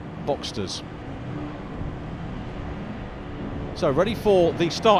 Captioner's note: car engines revving